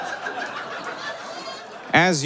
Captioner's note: audience laughs increasingly; scattered applause